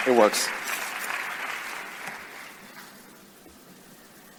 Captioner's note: audience applause